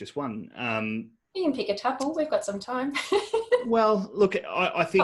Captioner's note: laughs